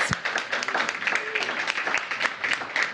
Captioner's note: applause